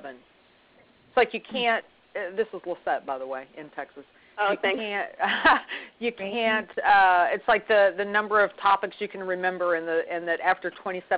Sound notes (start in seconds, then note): 5.7 laughs